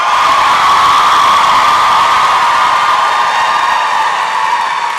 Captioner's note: applause and cheering